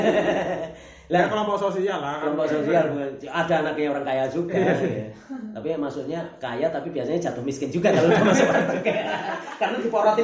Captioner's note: laughs